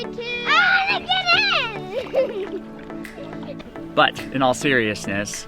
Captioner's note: laughing